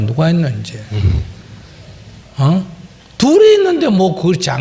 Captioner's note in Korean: 질문자 웃음